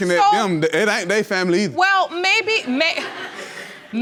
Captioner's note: audience laughing